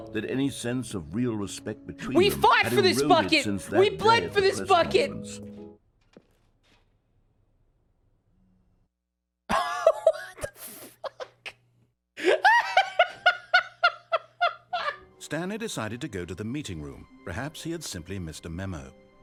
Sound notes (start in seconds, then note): 5.7 music stops; 9.4 laughing; 12.2 laughs at the loss of true companionship